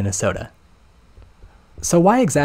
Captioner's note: flabbergasted silence